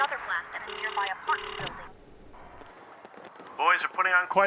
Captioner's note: telephone ringing